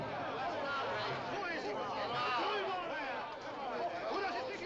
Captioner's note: crowd clamors